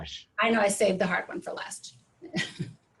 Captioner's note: chuckles